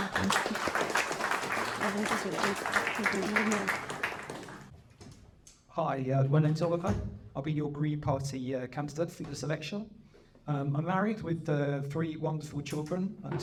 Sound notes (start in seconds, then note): 0.0 applause